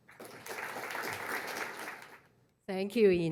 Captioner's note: applause